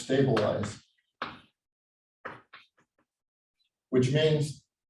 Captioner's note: chalkboard tapping loudly